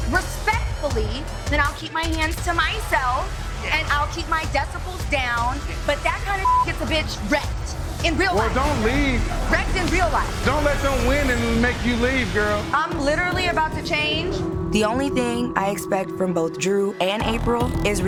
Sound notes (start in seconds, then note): 6.4 beep